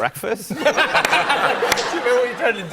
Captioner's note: laughter